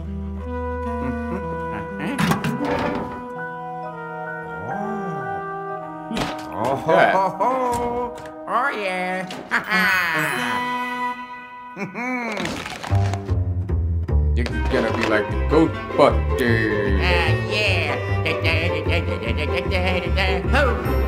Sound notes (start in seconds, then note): 9.3 Luigi chuckling